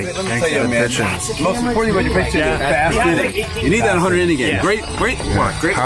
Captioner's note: in-field chatter